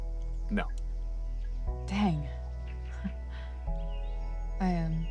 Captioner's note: chuckle